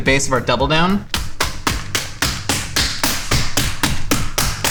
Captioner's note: beating